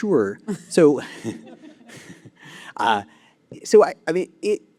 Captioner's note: laughter